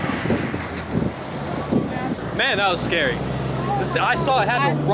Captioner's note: wing blowing